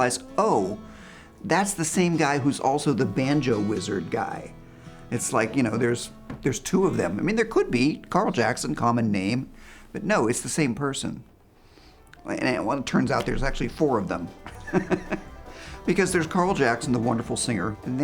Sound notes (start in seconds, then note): 14.4 chuckles